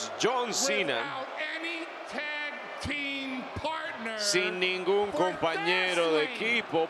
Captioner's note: applause